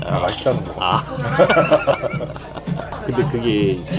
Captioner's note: genuine laugh